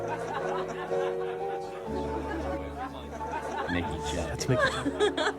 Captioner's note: patrons laughing; patrons chattering